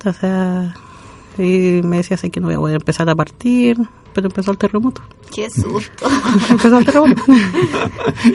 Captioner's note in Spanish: risas